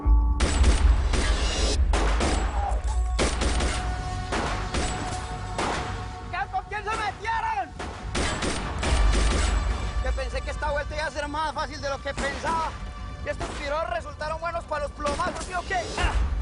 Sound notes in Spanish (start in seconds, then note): 1.4 Disparos; 9.3 Disparos